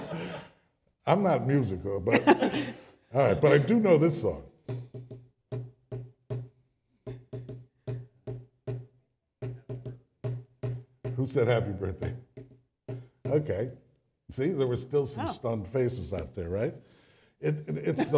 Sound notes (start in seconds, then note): 2.0 laughter; 4.6 tapping